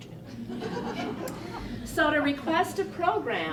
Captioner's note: laughter